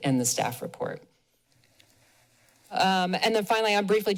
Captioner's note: pause